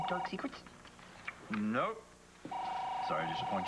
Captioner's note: phone rings